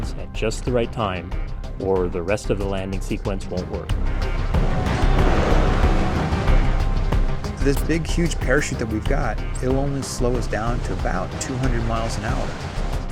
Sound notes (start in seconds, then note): 4.0 heavy wind sound; 4.5 music pulsing/intense